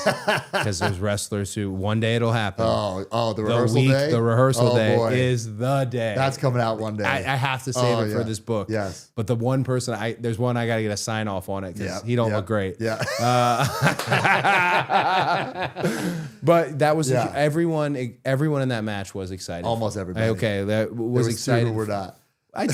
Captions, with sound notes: 'cause there's wrestlers who one day it'll happen. Oh, the rehearsal day? The week, the rehearsal day is the day. That's coming out one day. I have to save it for this book. Yes. But the one person, there's one I gotta get a sign off on it, 'cause he don't look great. (Cody and Matt laughing) But that was, everyone in that match was excited. Almost everybody. Okay. There's a few who were not.